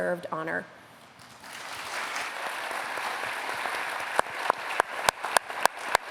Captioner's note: applause